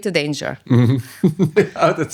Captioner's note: laughing